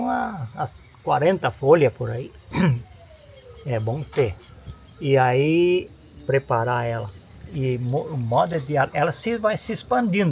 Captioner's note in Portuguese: limpando a garganta